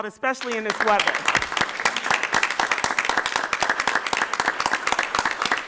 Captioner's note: audience applause